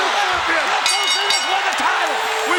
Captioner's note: bell rings